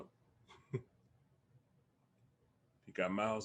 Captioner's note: Bobo laughs